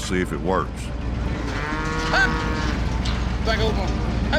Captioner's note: cows mooing